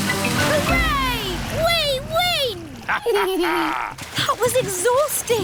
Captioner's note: both laugh